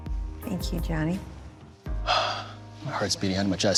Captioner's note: sighs